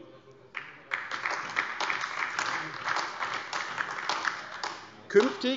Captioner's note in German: Beifall AfD